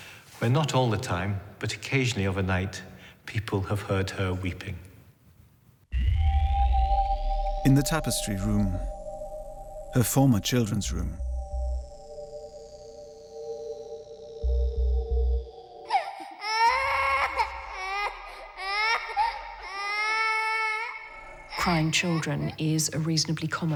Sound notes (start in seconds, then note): 15.6 crying sounds